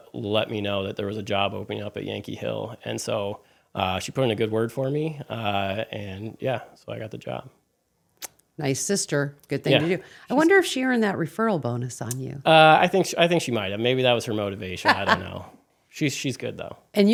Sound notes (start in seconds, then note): 14.8 laughs